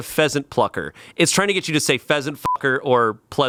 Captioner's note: beep